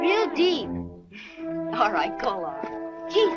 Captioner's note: chuckles